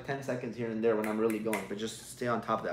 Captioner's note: fingers snapping